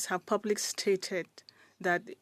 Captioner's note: speaking French